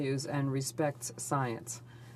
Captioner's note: speaking in French